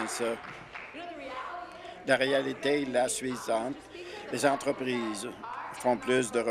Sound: applause

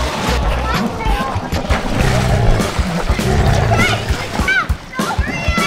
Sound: grrr, grrr!; upbeat music

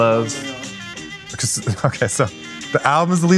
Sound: laughing

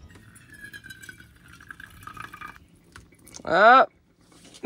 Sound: water trickling

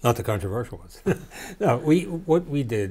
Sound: laughter

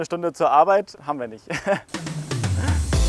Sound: laughs; dynamic music

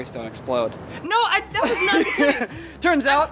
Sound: laughter

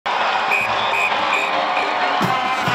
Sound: crowd cheering; whistle blowing; marching band playing

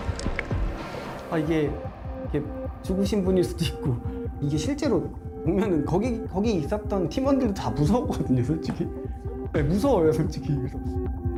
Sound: voiceover

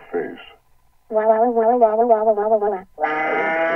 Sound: cries

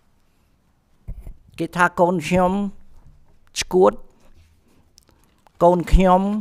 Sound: speaks in Khmer language

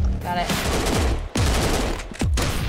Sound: gunfire

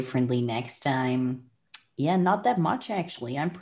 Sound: clicks tongue

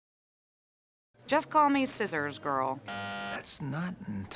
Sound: bzzzt

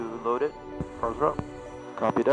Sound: radio chatter

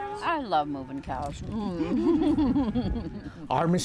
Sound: laughs

